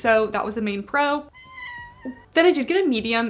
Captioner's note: Peach meowing